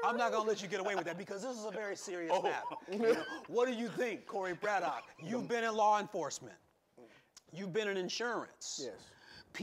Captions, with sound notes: I'm not gonna let you get away with that, because this is a very serious matter. (chuckling) What do you think, Corey Braddock, you've been in law enforcement, you've been in insurance.